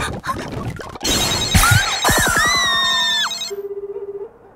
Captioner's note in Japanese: 着信音; 呼び出し音